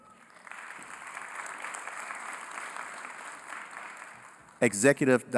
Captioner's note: applause